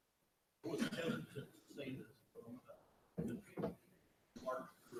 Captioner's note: speaks off mic